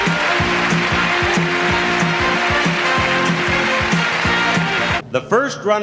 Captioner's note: crowd cheering and applauding; upbeat music